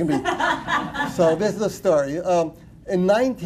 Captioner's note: laughter